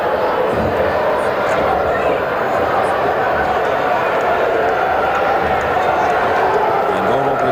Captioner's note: crowd noise